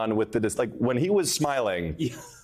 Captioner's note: laughter